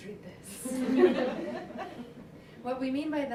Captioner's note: laughter